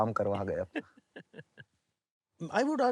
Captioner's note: laughs